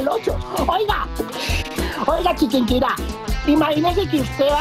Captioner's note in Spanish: risas